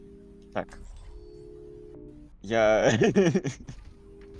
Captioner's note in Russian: смех